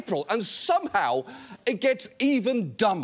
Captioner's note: none